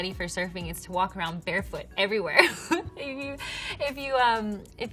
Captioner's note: chuckles